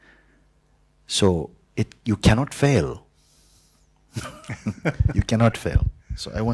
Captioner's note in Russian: и вопрошающий смеются